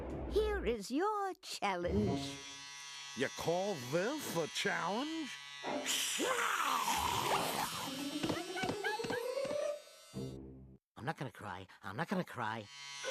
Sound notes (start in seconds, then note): 2.2 buzzing; 6.2 snarling; 8.2 yelping